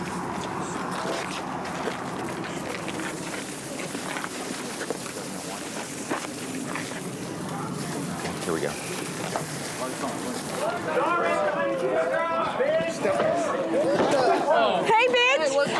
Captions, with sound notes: Here we go. [CHATTER] Hey, bitch.